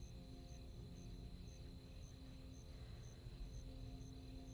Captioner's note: crickets chirping